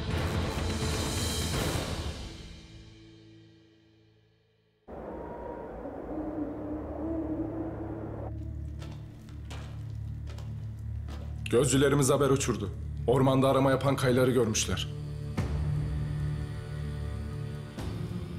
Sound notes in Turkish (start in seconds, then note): 4.9 Rüzgâr esiyor; 5.0 Baykuş ötüyor; 8.3 Yaklaşan ayak sesi